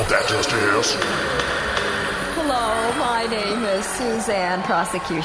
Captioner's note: gavel banging, laser sound effects; fretfully